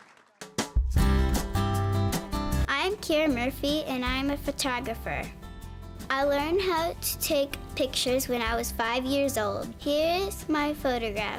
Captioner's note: applause